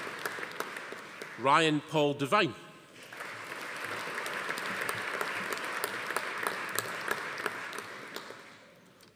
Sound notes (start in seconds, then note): 3.0 audience applauding